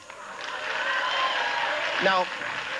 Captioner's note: audience cheering